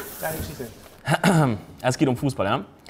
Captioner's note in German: Räuspern